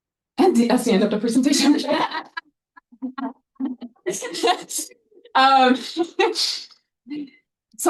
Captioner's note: audience laughing